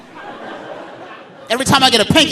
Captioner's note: audience laughing